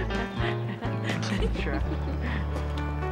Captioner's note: laughs